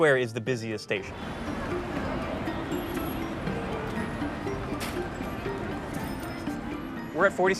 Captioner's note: people chattering